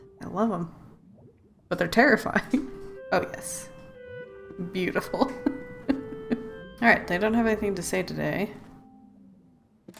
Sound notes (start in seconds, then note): 2.4 laughs; 5.2 laughs